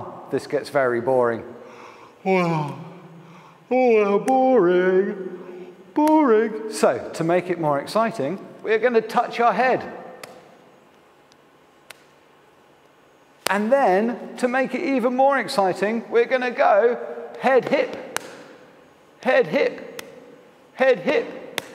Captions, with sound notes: this gets very boring (exaggerated yawn) (sigh) boring, boring! So to make it more exciting we're going to touch our head. And then, to make it even more exciting we're going to go... Head, hip... ...Head, hip... ...Head, hip.